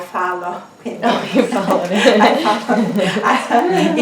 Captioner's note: laughter